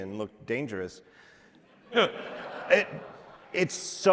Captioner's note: audience laughing